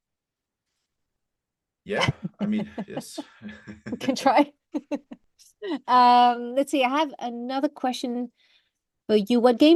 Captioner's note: laughs